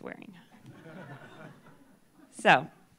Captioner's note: laughter